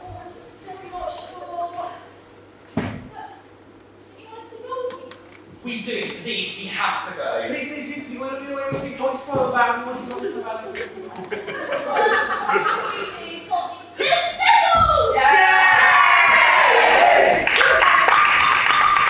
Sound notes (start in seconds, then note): 15.1 everyone cheers